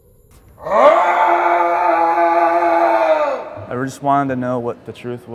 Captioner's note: howling